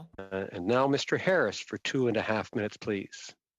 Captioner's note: speaking French